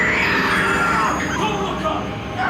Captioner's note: screaming